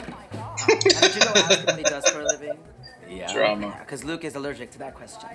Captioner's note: laughing